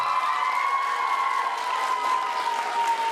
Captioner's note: applause